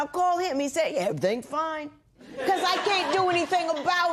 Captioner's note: laughter